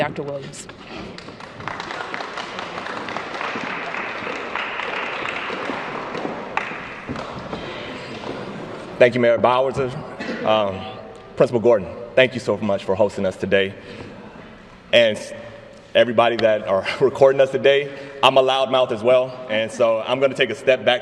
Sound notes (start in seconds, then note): 4.3 applause